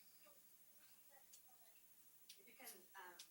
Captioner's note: student speaks faintly